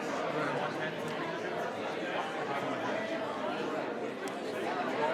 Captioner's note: attendees chattering